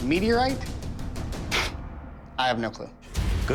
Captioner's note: scoffs